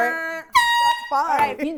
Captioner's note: horn blaring